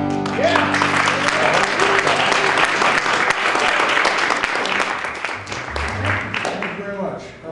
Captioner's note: applause